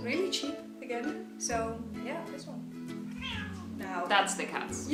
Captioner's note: cats fighting